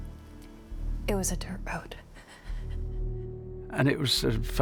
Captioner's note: breathes shakily